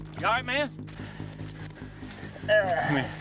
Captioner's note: groaning